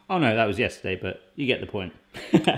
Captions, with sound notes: I know that was yesterday, but you get the point. (laughing)